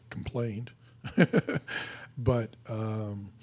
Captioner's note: laughing